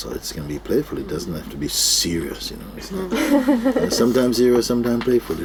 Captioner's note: laughter